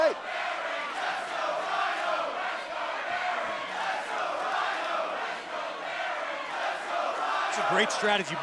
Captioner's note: crowd cheering